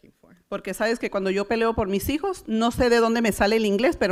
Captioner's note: foreign language